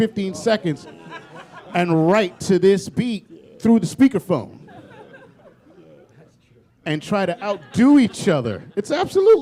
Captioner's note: laughter